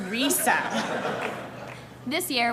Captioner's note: laughter